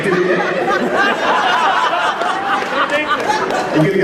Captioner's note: crowd Laughs